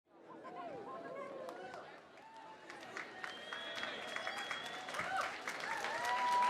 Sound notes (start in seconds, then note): 1.5 applause and cheering